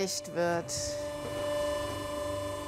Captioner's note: whirring